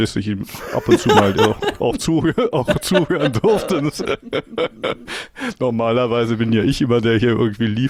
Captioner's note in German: gelächter